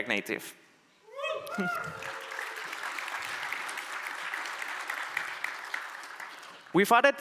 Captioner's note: applause